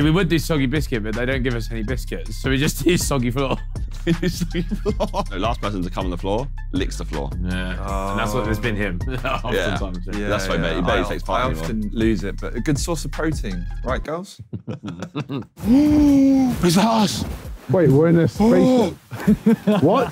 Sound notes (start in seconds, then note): 4.0 laughing; 9.6 indistinct chattering; 14.3 laughing; 15.6 gasping